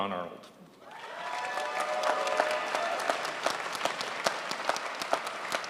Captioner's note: crowd applauds